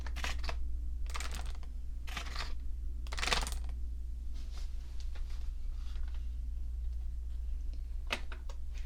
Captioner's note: armr sounds